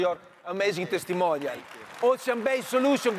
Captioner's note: audience applauds